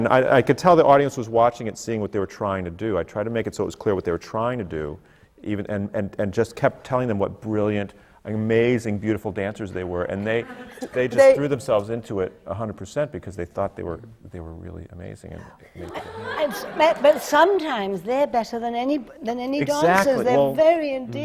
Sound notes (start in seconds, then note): 10.2 laughter; 15.8 laughter